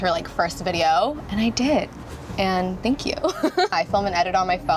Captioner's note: laughs